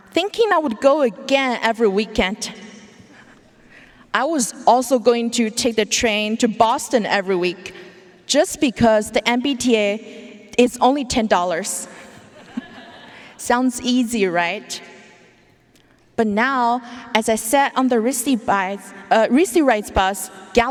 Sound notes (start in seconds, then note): 12.3 audience laughing